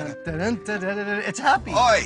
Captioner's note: hums